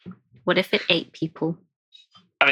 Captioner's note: laughing